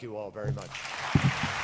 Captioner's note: applause